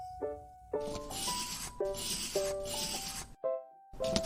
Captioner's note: pencil scratching